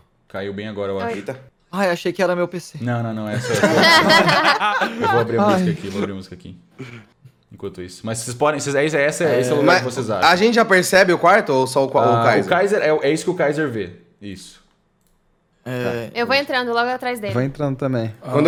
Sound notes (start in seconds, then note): 3.4 everyone laughs